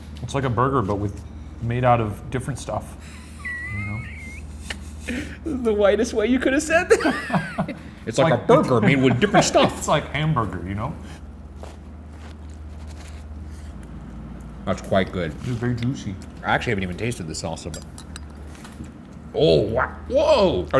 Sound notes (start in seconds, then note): 3.0 laughing; 6.8 laughing